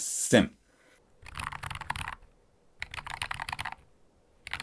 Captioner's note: keystroke sound